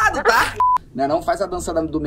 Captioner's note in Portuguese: som de bipe